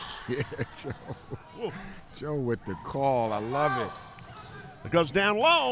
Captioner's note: laughs